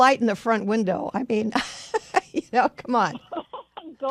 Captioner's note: laughs